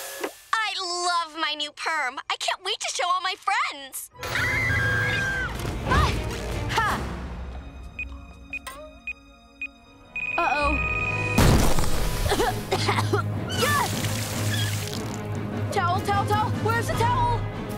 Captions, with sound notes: I love my new perm! I can't wait to show all my friends! [screaming] Ah! Hah! [beeping] Uh-oh. [coughing] Ah! Towel, towel, towel! Where's the towel?!